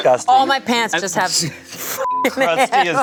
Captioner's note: beep